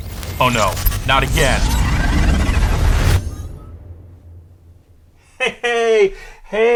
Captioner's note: mysterious interference